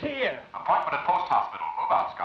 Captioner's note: voice On Loudspeaker